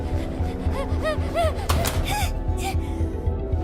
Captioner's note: whimpering frantically